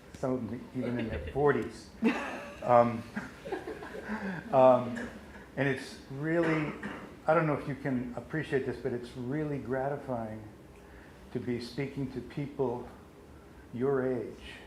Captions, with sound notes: I mean, like old people, like even in their 40's. [Laughs] And it's really, I don't know if you can appreciate this, but it's really gratifying to be speaking to people your age